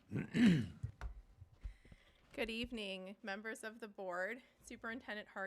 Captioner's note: laughing